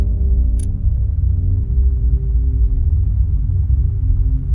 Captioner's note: intense bass music; camera clicks